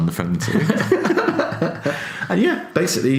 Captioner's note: laughs